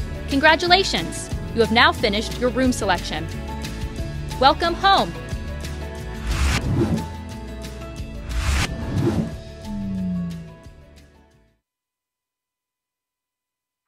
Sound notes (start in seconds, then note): 6.4 air whooshing; 9.6 bright music